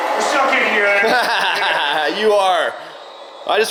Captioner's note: laughs